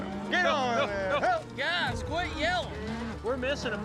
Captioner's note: yelling